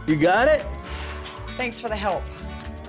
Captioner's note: exhales